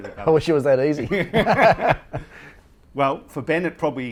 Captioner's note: laughs